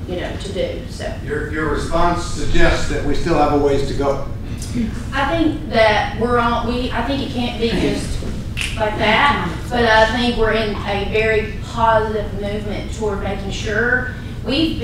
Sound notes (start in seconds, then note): 8.6 snaps fingers